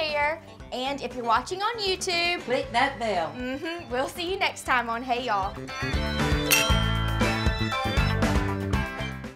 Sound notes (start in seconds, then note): 6.4 glasses clink; 7.1 upbeat music